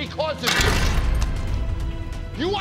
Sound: tray crashes

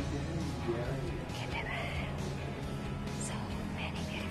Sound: whispers

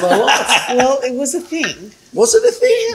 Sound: laughs

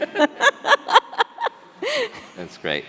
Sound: laughing

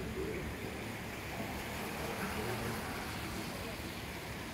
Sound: rain

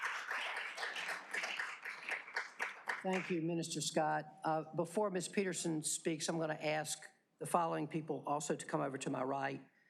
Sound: applause

